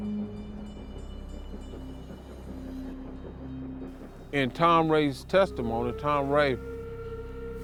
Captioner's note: slow music; train engine humming